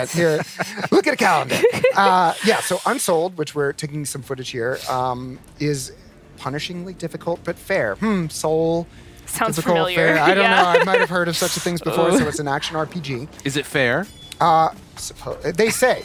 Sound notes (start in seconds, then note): 2.1 laughter